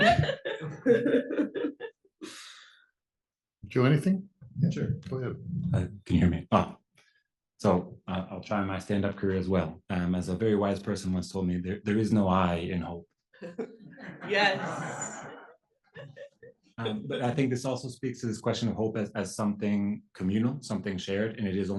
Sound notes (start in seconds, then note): 0.0 laugh; 13.4 laugh